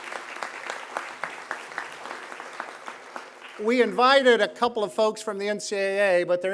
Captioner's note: applause